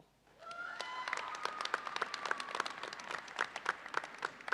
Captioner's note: audience applauds